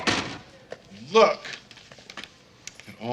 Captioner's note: door closes